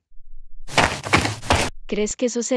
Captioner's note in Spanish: FX - Footsteps - On Multiple Dirt - Run